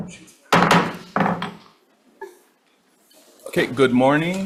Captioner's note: gavel bangs